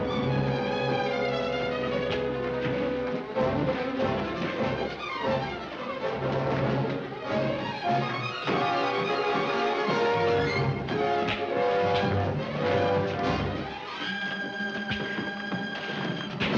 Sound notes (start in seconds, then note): 0.0 dramatic music; 1.8 men struggling